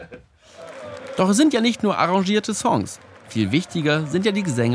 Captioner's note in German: Jubel